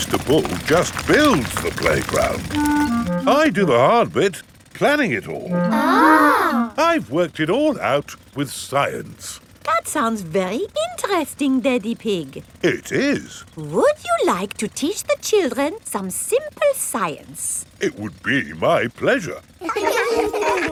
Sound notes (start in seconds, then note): 6.1 children gasp in awe; 19.6 children laughing